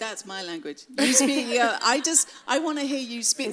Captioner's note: laughs